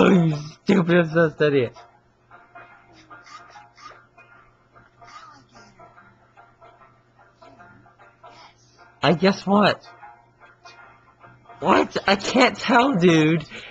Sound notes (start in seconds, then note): 4.0 laughs; 8.6 chuckles